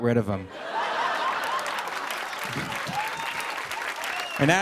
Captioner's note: laughter and applause